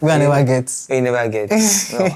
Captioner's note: laughs